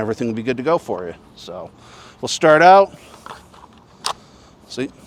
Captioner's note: gun corking